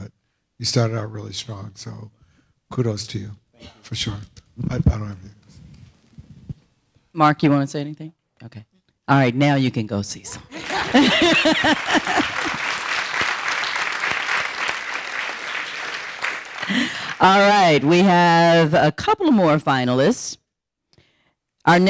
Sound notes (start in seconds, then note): 10.5 audience applauding; 10.5 laughing